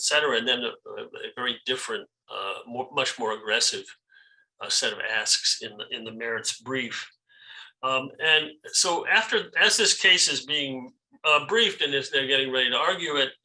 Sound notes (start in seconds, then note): none